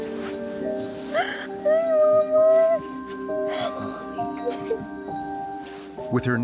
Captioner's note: crying